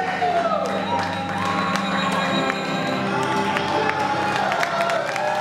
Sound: cheering and applauding

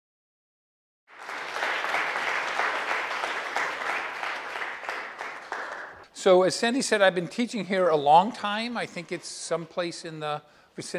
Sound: applause

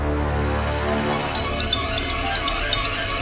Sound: phone ringing

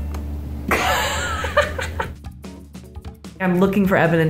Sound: both laugh

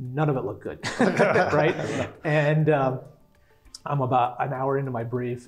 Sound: laugh

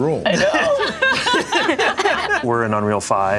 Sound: group laughs

